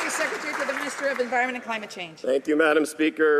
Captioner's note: some Applause